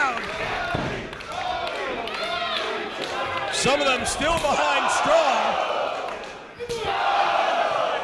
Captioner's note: applause